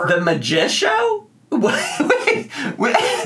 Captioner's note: laughs